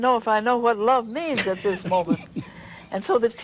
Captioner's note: laugh